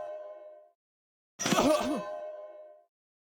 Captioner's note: groan of pain